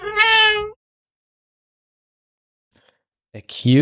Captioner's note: meow